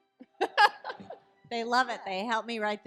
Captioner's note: laughing